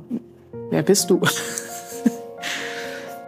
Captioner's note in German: Schmunzeln